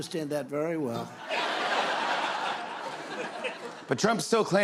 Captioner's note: laughter